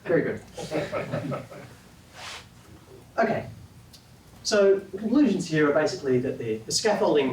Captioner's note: laugh